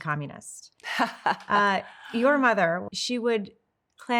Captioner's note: Paulina chuckles